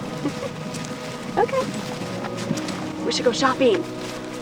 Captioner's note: giggles